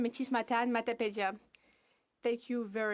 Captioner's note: speaking French